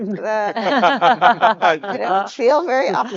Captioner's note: speakers laughing